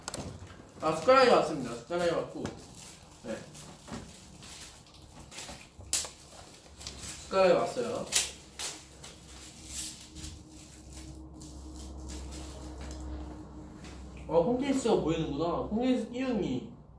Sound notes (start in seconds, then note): none